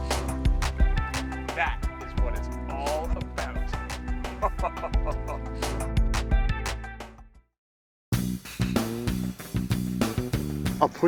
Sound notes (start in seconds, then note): 4.3 man laughs; 5.6 relaxing meditative music; 8.1 funky bass music